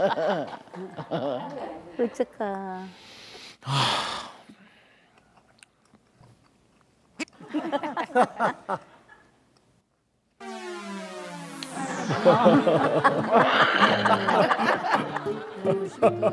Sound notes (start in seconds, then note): 3.6 sigh